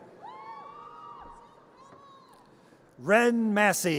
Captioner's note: audience cheers